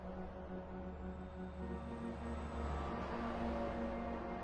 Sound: vehicles driving

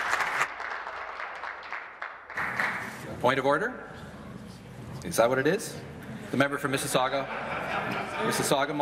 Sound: applause

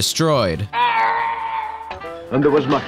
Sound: Lego Yoda scream

